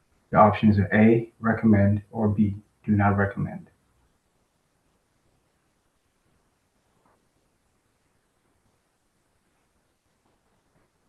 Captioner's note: pause